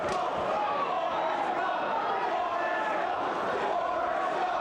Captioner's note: audience chanting